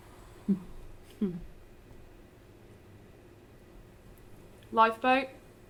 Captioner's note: giggles softly